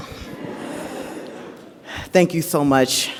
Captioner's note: audience laughs